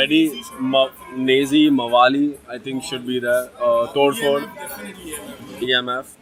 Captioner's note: foreign